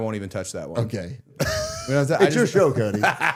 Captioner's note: laughing